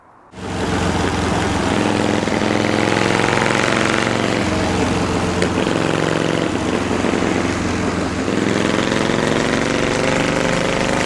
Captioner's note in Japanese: エンジン音